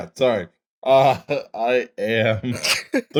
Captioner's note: laughter